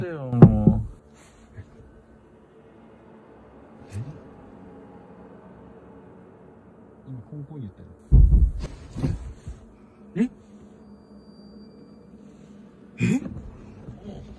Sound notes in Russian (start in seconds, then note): 0.3 стук; 8.1 стук